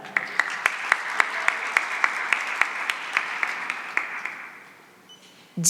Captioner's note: applause